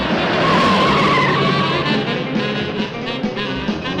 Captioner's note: suspenseful music; tires screeching